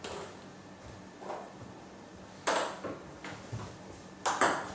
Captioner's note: balls ping pong hitting continues